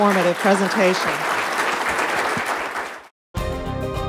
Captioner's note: applause